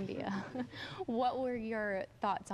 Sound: laughing

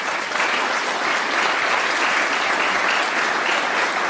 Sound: applause

